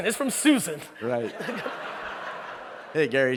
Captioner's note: audience laughing